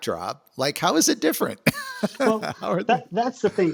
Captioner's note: laughs